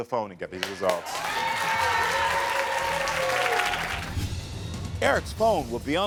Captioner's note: audience cheering